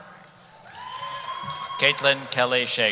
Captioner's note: cheering